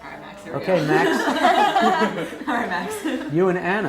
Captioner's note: laugh